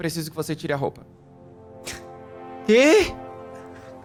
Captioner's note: laugh